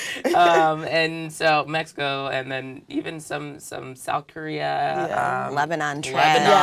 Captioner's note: laugh